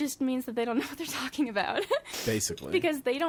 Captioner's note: laughs